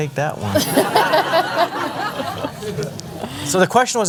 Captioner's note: laughter